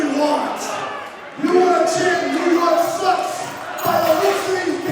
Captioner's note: crowd cheering